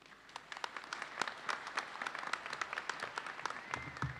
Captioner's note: audience applauds